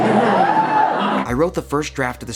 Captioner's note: crowd woos